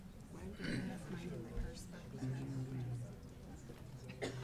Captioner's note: people chattering